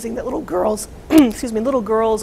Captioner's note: clears throat